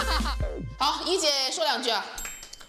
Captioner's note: coughs